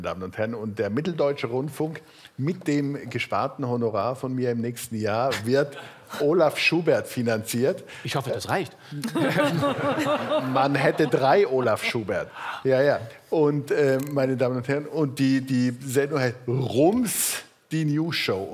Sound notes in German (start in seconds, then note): 9.0 Lachen